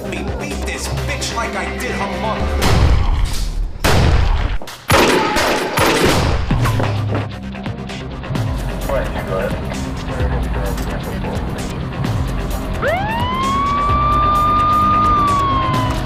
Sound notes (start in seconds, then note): 3.8 guns firing; 8.9 dispatcher chattering in radio; 12.7 siren wailing